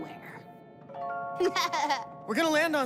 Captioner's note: laughing